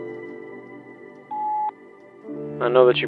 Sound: beep

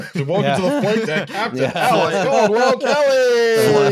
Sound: all laughing

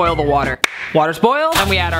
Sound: claps

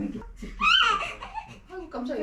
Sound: whimpering

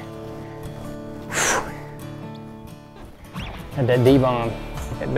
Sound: exhales sharply

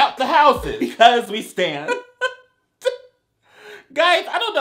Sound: chuckles

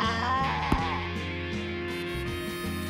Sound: wails; thud

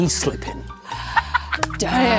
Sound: Jessie laughs

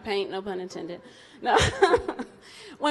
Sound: laughs; audience laughs

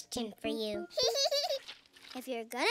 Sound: giggles

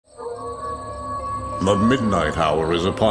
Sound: wolf howling

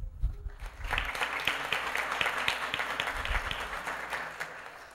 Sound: applause

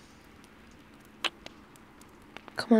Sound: kiss

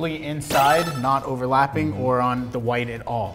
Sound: beep

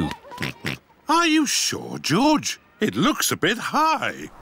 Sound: oinks

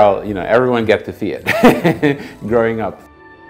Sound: laughs

